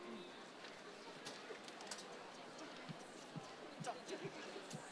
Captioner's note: crowd chattering